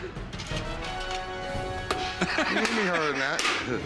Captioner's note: laughter